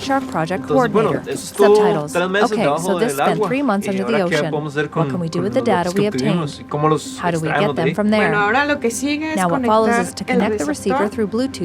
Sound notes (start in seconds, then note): 0.6 speaking Spanish